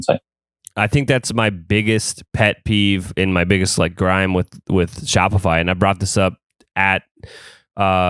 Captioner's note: gripe